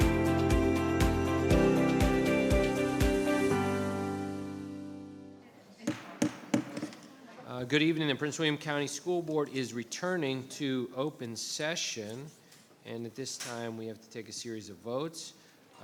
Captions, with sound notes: (gavel thudding) Good evening, and Prince William County School Board is returning to open session. And at this time, we have to take a series of votes.